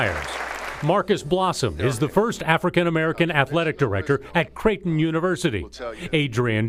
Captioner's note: applause